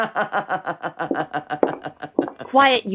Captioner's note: laughs hysterically; footsteps approaching